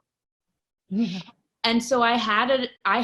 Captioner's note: laughs